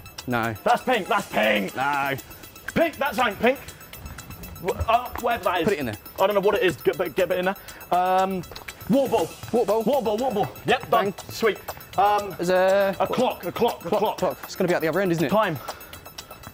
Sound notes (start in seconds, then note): none